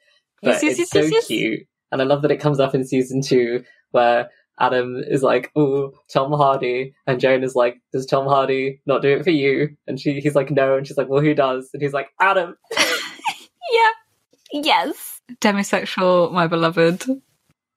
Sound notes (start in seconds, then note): 12.6 laughing